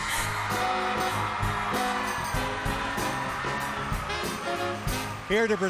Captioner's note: cheers and applause